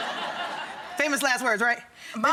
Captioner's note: audience laughing